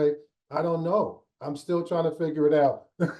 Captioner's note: laughs